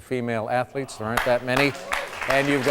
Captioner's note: crowd claps loudly